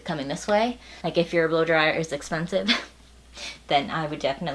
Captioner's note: laughs